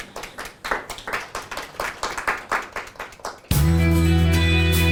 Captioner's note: applause